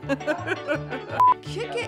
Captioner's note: laughing